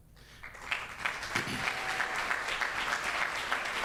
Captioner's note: audience claps